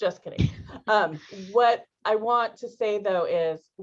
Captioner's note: laughter